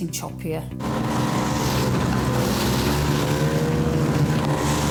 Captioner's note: lifeboat engine whirring